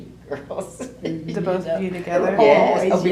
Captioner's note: laughs